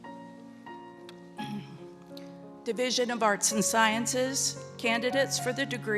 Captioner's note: clears throat